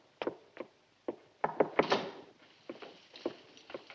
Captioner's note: knocks